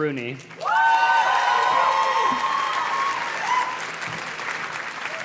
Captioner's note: audience cheers and claps